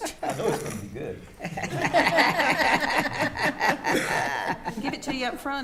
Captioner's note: attendees laughing